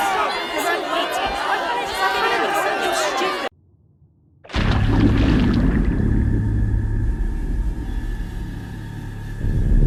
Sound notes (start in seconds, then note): 4.5 splash; 6.8 dramatic music